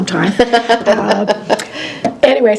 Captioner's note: laughs